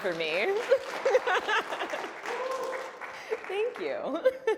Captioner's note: applause